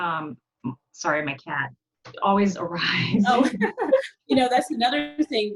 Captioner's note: laughs